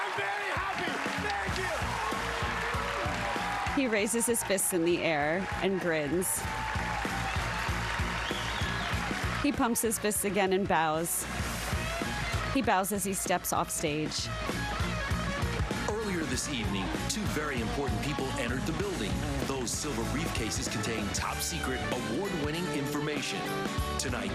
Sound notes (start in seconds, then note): 9.7 cheers and applause